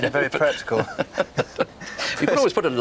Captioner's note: both laugh